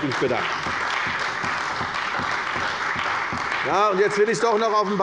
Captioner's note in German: Beifall bei der CDU und dem BÜNDNIS 90/DIE GRÜNEN